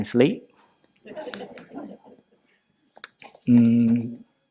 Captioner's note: laughter